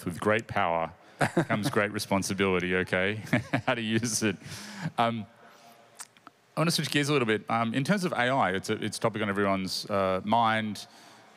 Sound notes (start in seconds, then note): 3.2 laughter